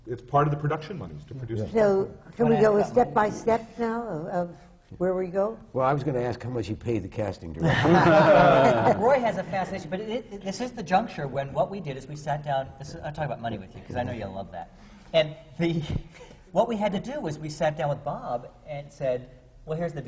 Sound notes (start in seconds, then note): 7.6 laughter from the panel; 15.0 laughs